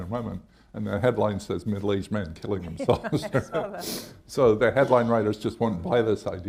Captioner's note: laughs